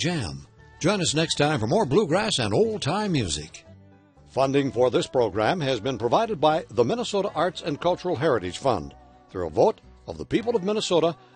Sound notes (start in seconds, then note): 0.3 voiceover; 6.2 voiceover